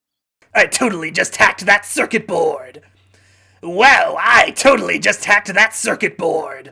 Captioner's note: hacker voice